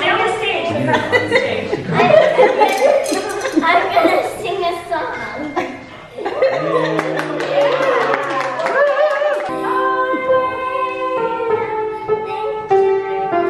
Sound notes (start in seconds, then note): 6.9 clapping